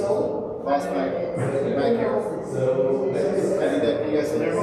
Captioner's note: people chattering